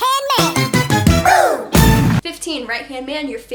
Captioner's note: boom!